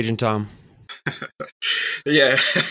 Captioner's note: laughs